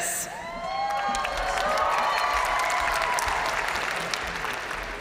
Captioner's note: audience cheering and applauding